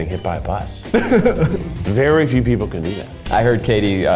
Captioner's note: laughs